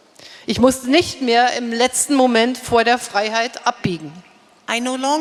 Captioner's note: speaking in German